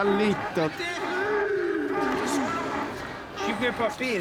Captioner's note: Gaetanos celebrating